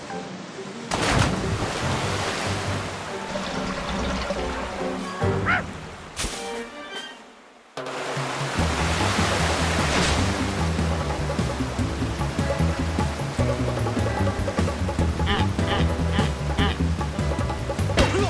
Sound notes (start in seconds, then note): 5.4 whimpers